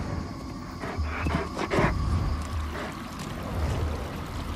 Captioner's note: dog panting